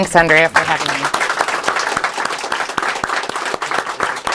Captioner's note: applause